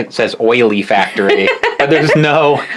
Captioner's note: laughs